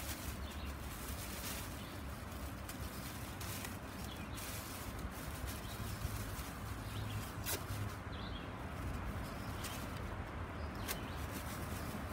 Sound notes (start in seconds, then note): 0.9 plastic rustling